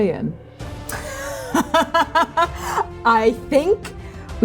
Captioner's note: laughing